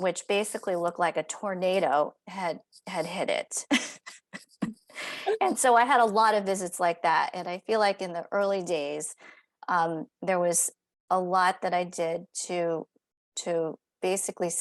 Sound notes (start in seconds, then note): 3.7 laughter